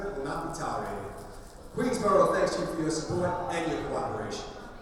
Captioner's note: none